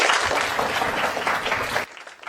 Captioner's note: applause